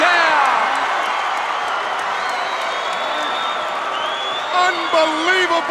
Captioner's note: Dick the Bruiser applauding; crowd cheering